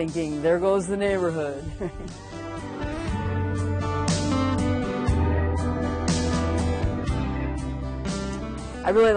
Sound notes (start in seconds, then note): 1.7 chuckles; 6.2 lighthearted music